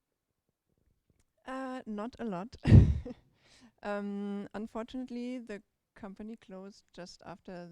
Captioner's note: chuckles